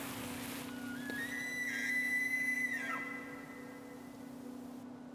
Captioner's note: elk bugles